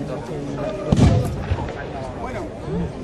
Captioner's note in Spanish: suena un cañonazo